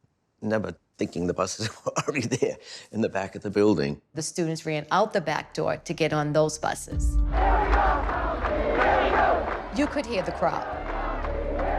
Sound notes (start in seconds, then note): 1.5 chuckling; 7.2 chanting